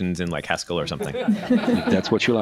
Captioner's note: laughter